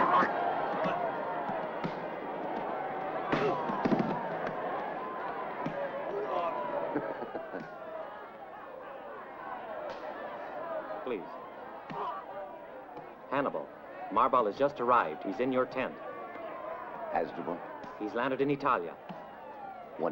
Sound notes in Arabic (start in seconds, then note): 6.8 هانيبال يضحك; 9.0 أصوات شجار; 9.0 ضوضاء الحشد